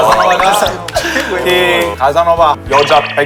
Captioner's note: why are you claping? / Clap